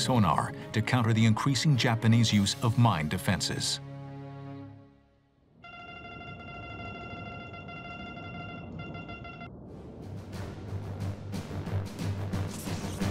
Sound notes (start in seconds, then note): 5.6 beeping; 9.6 suspenseful music